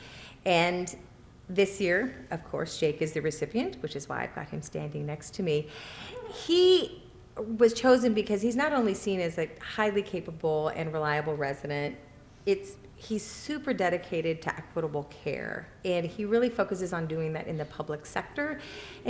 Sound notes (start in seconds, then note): none